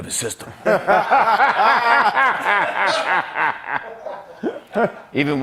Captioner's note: laughter